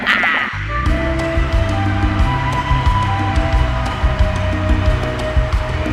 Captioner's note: people cheering